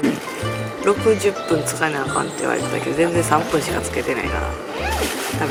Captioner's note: laughs